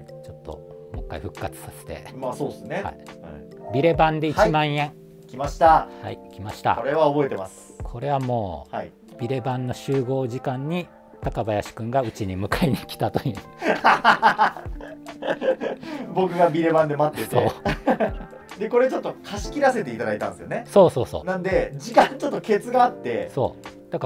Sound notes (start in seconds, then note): 13.6 laughing; 18.1 laughing